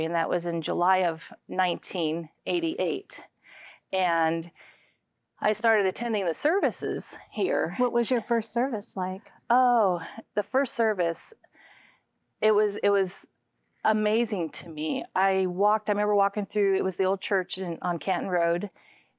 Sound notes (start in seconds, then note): none